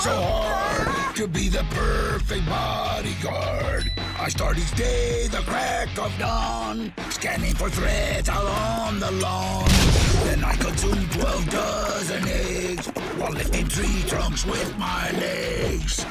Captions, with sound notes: Oops, aah. --to be the perfect bodyguard. I start each day at the crack of dawn, scanning for threats out on the lawn. [explosion] Then I go through a dozen eggs while lifting trunks with my legs.